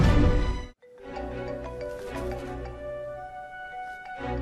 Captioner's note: cellphone ringing